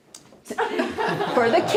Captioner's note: laughter